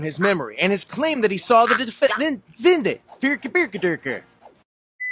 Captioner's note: Swedish chef impression